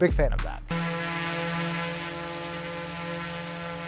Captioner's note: drone buzzing